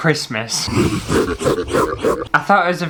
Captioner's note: evil Laughter